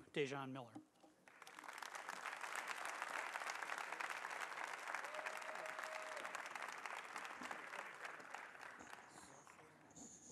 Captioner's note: applause